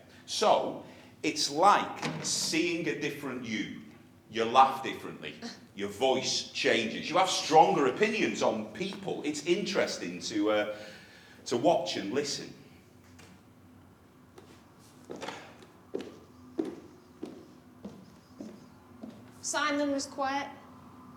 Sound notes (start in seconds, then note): none